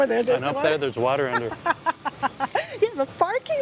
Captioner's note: laughs